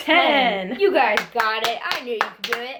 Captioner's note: both applaud